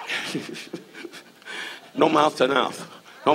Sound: audience laughs; Don laughs

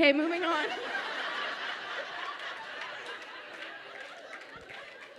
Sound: audience laughs and claps

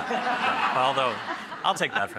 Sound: laughter

